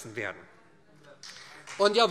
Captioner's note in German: Beifall SPD